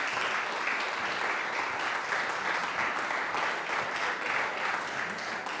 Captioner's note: audience applauding